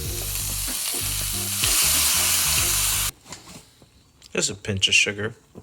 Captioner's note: pan sizzles